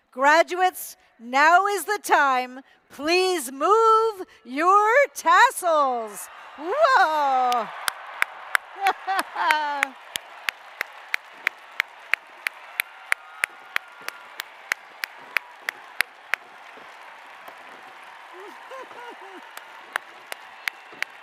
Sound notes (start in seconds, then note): 7.6 applause